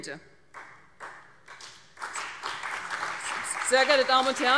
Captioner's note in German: Beifall CDU und BÜNDNIS 90/DIE GRÜNEN